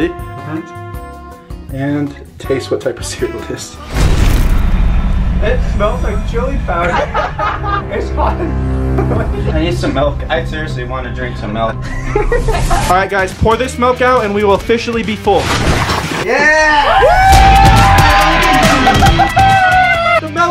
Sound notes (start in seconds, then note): 3.8 explosion booms; 4.2 intense music; 6.8 boys laughing; 6.8 laughs; 11.8 boys laughing; 16.2 all cheering